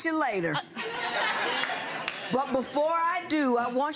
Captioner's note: gallery laughs